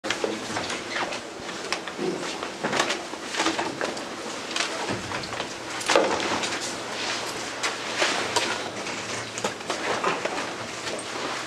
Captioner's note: background chatter